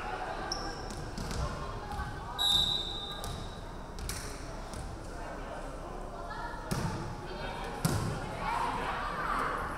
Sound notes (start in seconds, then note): 2.4 referee whistling